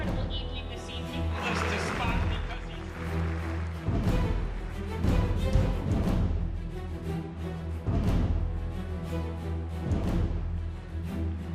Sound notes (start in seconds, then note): 1.2 audience applauds; 5.8 dramatic music